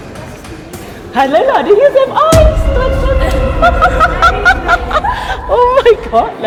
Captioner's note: laugh; speaking German